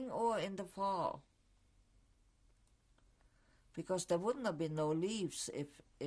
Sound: pauses for 3 seconds

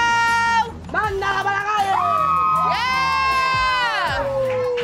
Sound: crowd cheering

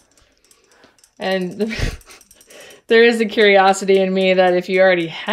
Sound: laughs

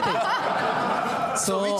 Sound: laughter

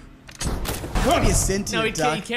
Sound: bang

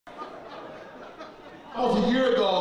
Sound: laughter

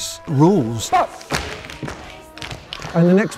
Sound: tap dancing

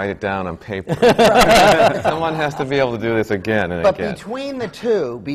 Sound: laughter from the panel

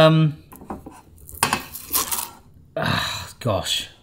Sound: cone crunches

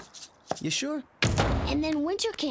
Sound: door slams

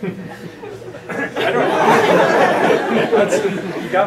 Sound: laughing

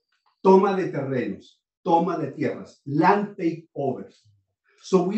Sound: speaking spanish

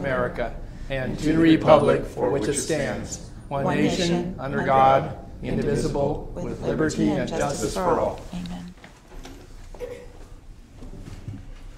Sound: reciting the pledge of allegiance

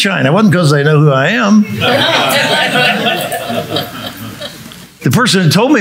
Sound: audience laughing

